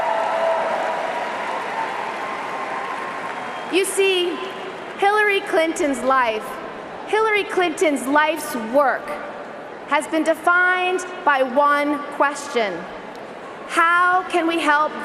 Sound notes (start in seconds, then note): 4.4 cheering and applause